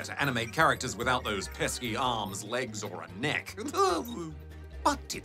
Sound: chuckles

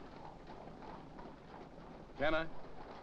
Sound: hooves trotting

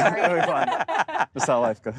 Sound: laughter

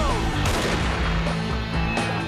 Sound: gun firing

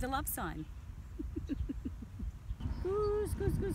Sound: giggles

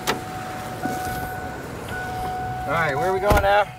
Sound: car door dinging

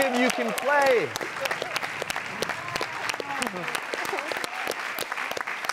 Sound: audience clapping

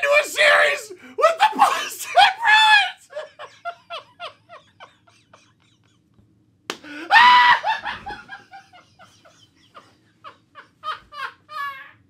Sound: Joker laughter turns into screaming for about a minute

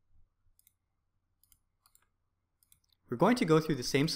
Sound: keyboard clicking

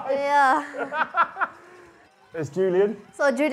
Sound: laughs

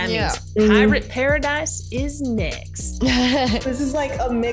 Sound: laugh

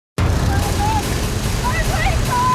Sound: plane engine hums

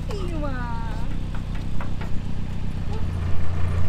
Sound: Sound of Molly's tail banging on the metal sides

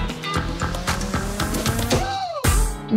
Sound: musical note swooshes

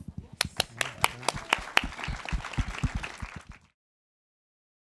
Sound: audience applauds

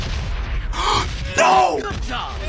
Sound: gasp

